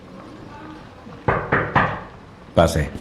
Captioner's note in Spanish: Golpeando